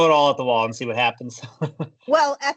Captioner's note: chuckles